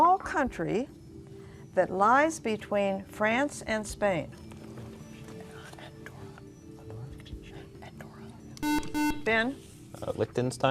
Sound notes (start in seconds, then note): 3.2 whispering